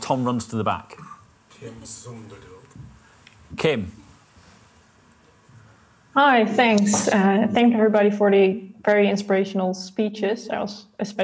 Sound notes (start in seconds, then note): 1.5 IT support muttering in background